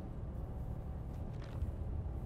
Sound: bus hums

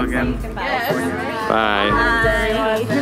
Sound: more background talking

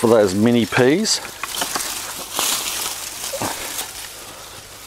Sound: foliage rustles

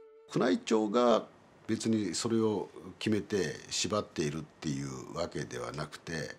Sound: speaking in foreign language

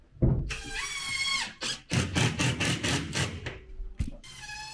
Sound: drill whining

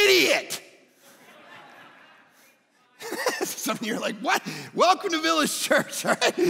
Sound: congregants laugh

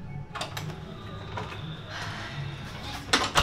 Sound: breathes in the spirit of a cleansed heart and renewed soul

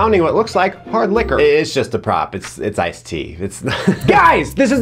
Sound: laughs

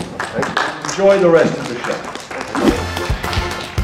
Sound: audience applause

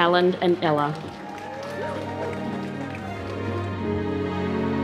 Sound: applause

